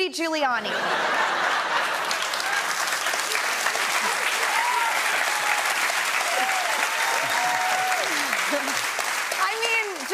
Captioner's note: laughter, cheers, applause